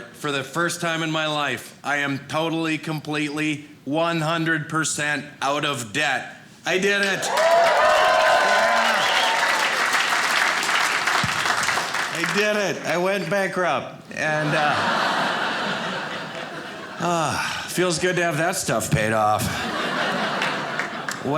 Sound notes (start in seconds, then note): 7.1 audience cheering; 10.1 audience applauding; 14.4 audience cheering; 19.4 audience laughing